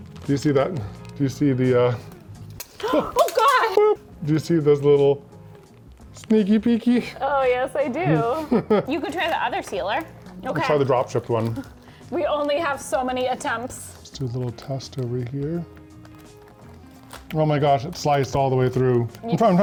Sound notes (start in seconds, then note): 2.4 scissors clinking; 8.0 laughs